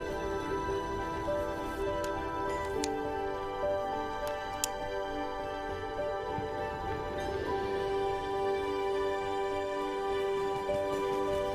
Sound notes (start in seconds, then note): 0.0 ambient music playing; 4.0 light clicks; 10.0 flapping